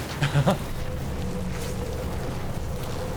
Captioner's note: laughs